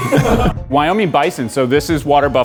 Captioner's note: laughs